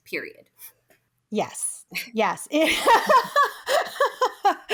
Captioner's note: laughs